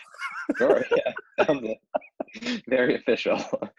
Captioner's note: laughter